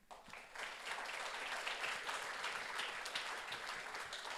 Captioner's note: audience applauds